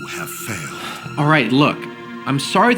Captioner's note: interrupting; sighs